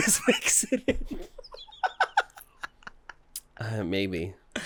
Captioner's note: giggles